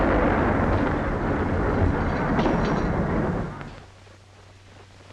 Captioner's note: house rattling